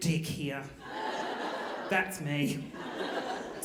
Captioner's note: audience laughing